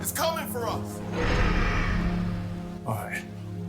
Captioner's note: another roar